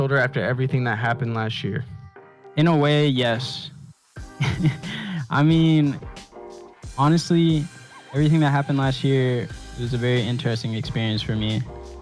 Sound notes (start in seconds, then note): 4.4 laughs